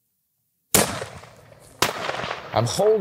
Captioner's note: gun shot